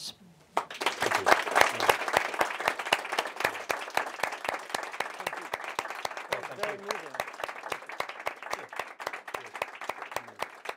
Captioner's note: applause